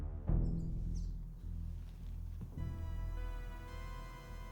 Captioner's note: birds chirping